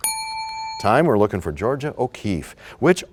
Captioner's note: bell rings, time expires